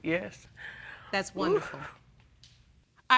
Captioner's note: exhales